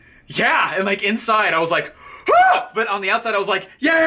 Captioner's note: screaming